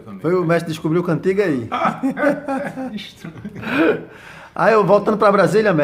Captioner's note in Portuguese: risos